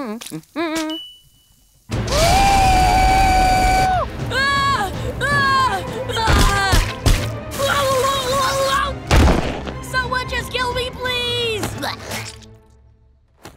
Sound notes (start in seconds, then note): 0.0 humming; 2.0 screaming; 8.3 gurgling